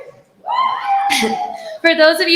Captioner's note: cheering